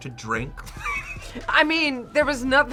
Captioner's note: laughs